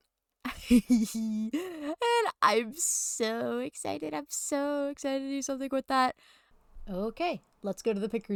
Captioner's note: giggles